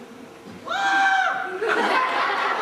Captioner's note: playfully screams; laughter